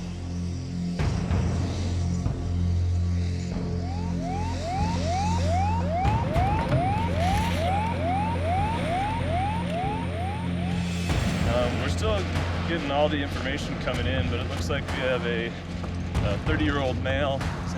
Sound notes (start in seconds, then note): 3.5 siren wails